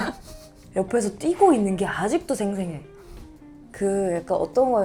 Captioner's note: wiping nose